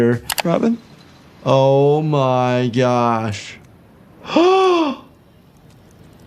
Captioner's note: gasps